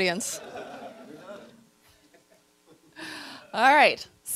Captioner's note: audience laughter